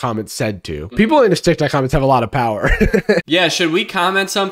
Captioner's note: laughs